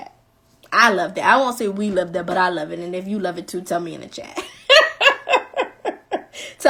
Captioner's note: laughing